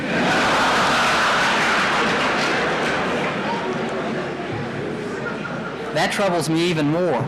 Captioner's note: laughter in the courtroom